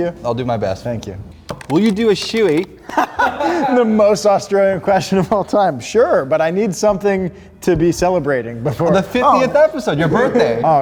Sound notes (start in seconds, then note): 2.8 laughing